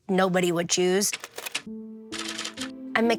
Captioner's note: typewriter keys clacking